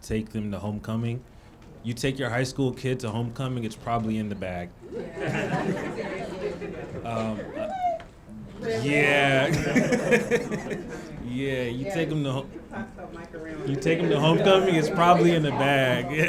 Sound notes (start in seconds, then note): 4.8 laughing; 7.4 audience member shouting